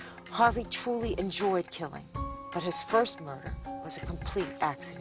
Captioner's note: voiceover